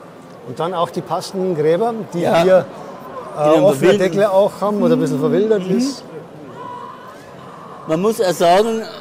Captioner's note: quiet screams can be heard from the model house